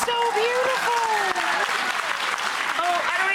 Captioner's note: audience applauding